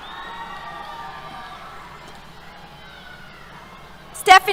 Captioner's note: cheers